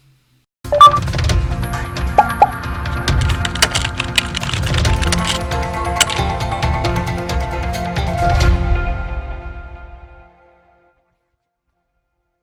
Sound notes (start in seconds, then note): 1.7 bouncy music; 3.1 typing on keyboard